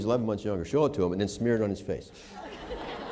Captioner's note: laughter